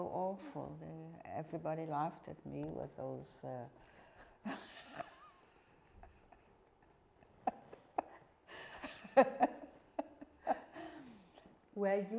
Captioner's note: laughing